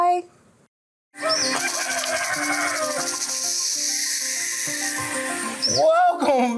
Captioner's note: rooster crowing; snake hissing